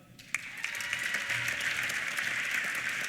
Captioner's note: applause; cheers